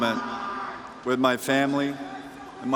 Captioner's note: crowd chanting henrik; cheers and applause